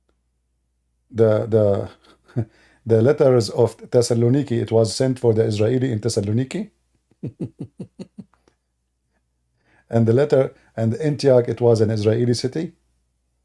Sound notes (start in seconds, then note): 7.1 Ketawa